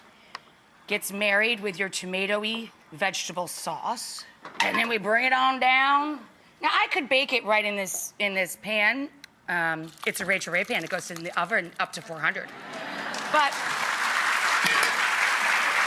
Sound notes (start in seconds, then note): 12.6 applause